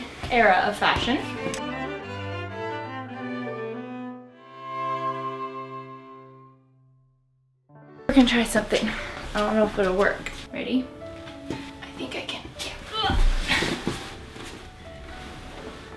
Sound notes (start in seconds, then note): 13.0 gown rustles